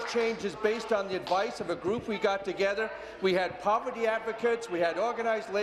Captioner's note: applause